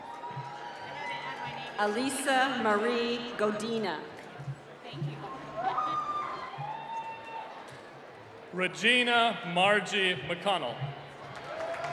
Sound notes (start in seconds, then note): 0.0 applause; 5.2 cheering; 11.1 applause